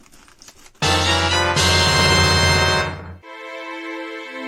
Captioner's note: item get sound